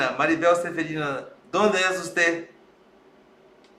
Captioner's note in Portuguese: Em espanhol